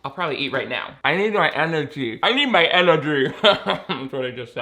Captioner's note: laughs